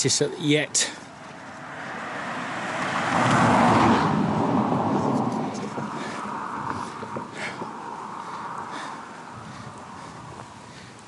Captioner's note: passing Traffic